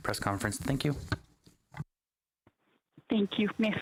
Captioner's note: speaking French